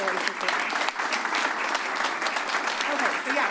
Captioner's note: applause